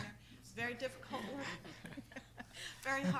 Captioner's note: board members laughing; laughs